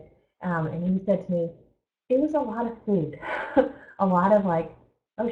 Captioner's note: laughs